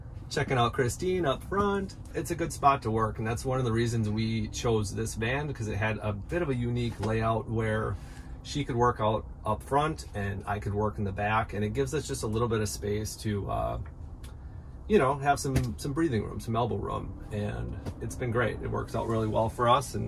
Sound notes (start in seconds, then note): none